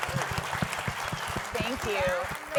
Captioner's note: applause